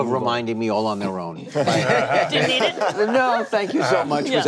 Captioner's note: group laughing